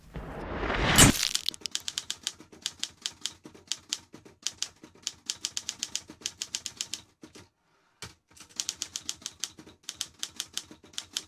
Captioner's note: typewriter sounds